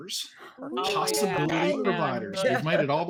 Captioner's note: all chattering